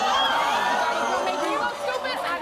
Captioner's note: audience gasps